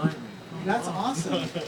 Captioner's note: laughs